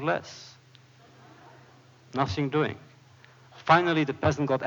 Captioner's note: laughter